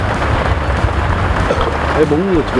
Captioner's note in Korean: 트림